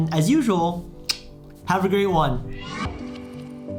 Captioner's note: lip smacks